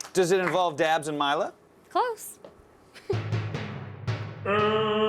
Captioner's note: applause